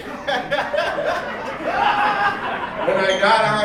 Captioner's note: audience laughing